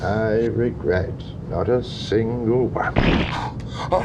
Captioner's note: farts